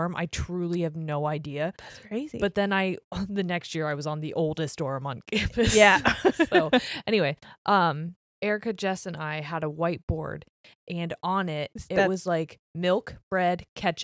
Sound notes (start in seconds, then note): 5.7 giggles quickly